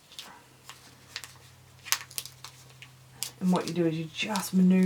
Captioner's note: paper rustling